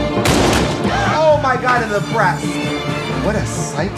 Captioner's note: gun fires